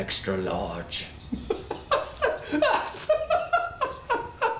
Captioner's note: laughs